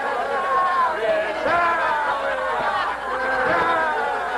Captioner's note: all laughing; all shouting